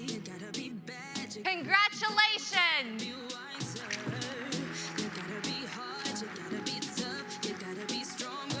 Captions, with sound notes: Congratulations. (Applause)